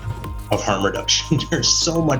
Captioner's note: laughs